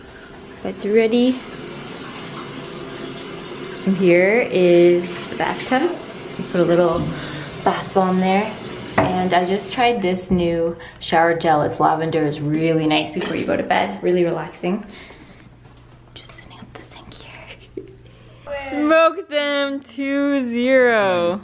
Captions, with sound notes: Bed's ready And here is the bathtub. I put a little- Bath bomb there and I just tried this new shower gel. It's lavender is really nice before you go to bed. Really relaxing *whispers* Just setting up the sink here Smoked them 2-0!